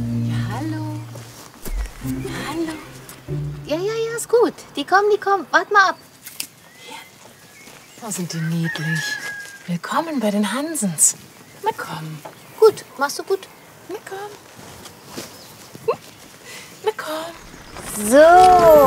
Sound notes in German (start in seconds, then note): 14.6 Sie lacht glucksend